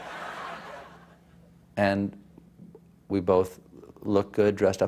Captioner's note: laughter